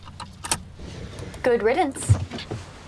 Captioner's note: seatbelt clicking